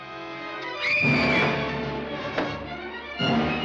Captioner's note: screaming